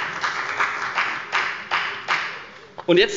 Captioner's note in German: Beifall bei der FDP